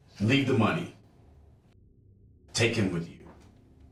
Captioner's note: none